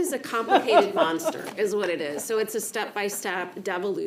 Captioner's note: laughter